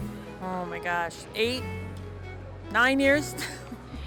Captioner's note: laughing